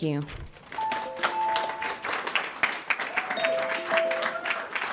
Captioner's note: audience clapping